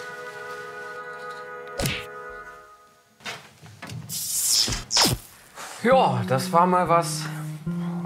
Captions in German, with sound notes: (Schlaggeräusch) (Elektronisches Geräusch) Ja, das war mal was ...